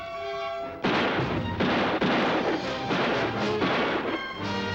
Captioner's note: guns firing